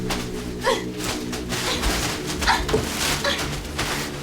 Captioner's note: dark music; Ashley grunting